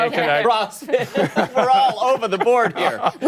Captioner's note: laughter